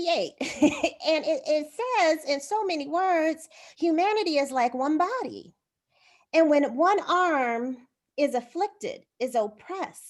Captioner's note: laughter